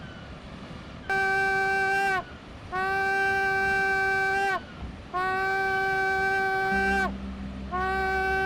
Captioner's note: whale crier horn sound